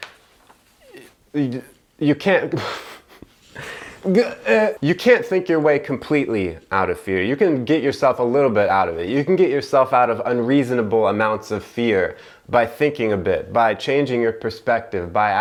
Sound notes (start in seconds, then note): 2.5 laughs